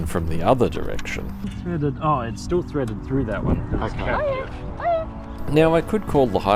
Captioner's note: passerby calls dog